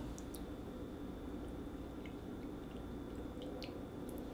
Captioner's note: tea pouring